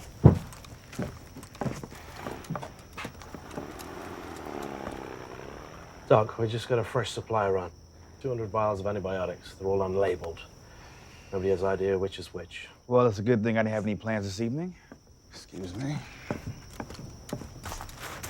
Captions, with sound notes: (motor whirring) - Doc, we just got a fresh supply run. 200 vials of antibiotics. They're all unlabeled. Nobody has idea which is which. - Well, it's a good thing I didn't have any plans this evening. Excuse me.